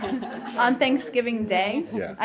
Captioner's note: laughter